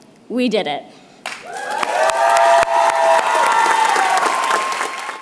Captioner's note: applause